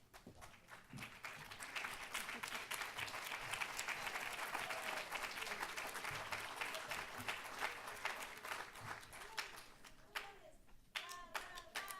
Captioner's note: applause